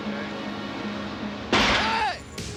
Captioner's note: crash